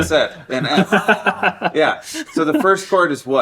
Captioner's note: laughing